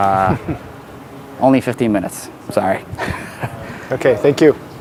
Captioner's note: laughs